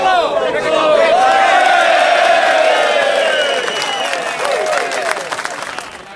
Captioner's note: choir members chanting; choir cheering